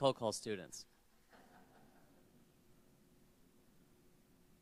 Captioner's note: people laughing